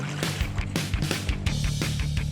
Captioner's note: splashing